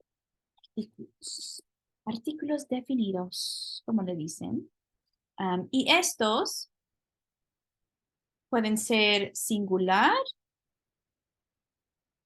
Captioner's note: speaking spanish